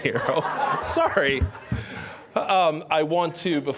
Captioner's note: audience laughing